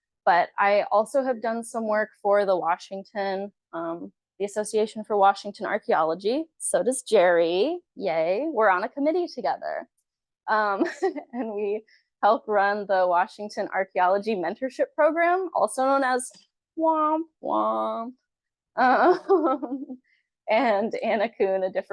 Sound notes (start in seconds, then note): 10.8 chuckles; 18.9 chuckles